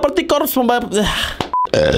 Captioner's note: sigh